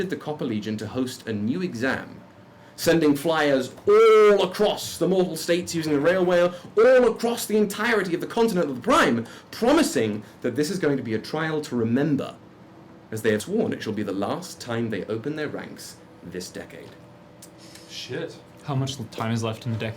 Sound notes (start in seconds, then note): none